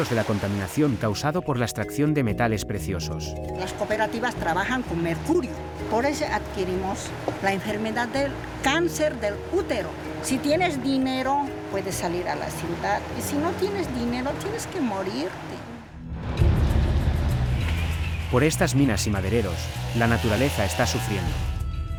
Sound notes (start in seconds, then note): 4.0 speaking in foreign language